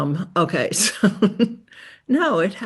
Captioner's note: chuckles